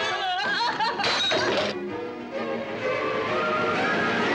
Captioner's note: lamp shatters